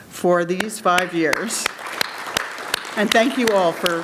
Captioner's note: audience applauds